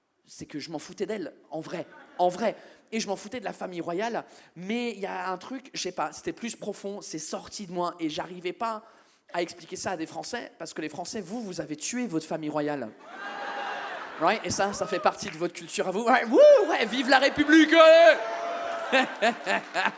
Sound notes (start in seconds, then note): 13.1 audience members whoop